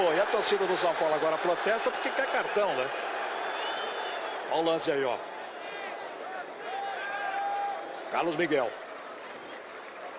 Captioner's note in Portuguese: aplausos